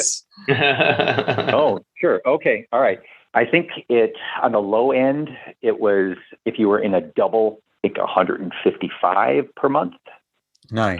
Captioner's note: laughter